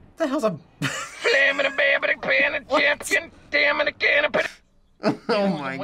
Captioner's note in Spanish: Risas